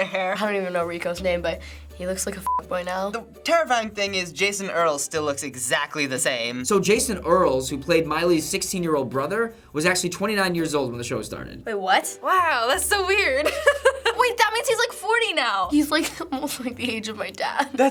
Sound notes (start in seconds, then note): 13.4 laughs